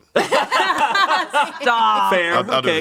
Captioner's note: everyone laughs